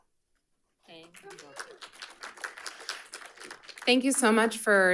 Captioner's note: audience applauding